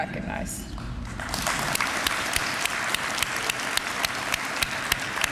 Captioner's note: applause